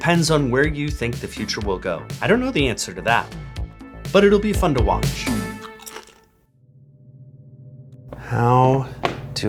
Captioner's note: chomp